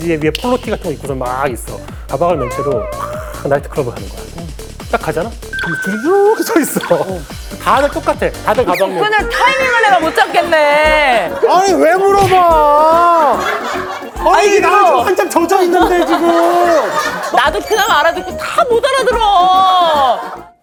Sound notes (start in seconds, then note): 2.4 yawn; 12.2 thump